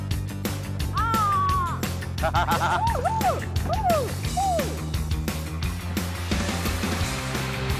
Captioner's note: laughing and exciting shouts